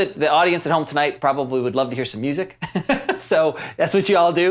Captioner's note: chuckles